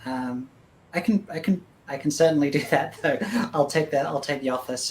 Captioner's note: laughs